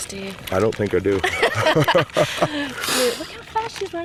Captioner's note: Sarah's parents laughing